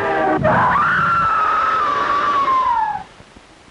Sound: girl screaming

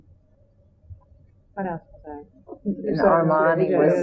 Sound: laughs

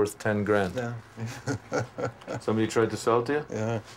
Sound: laughs

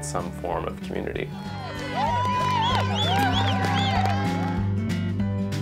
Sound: cheering

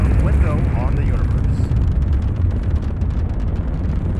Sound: engines roaring

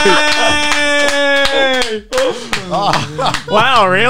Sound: cheering

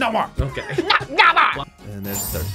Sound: laughs

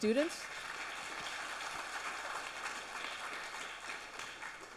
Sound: audience applauds

